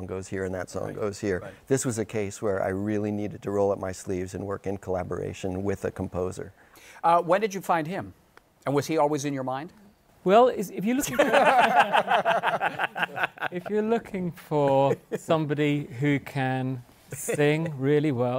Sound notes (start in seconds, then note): 11.0 laughter